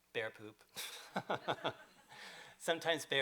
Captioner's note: laughter